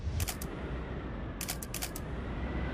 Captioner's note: camera shutters